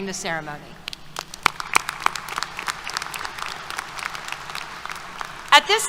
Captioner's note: applause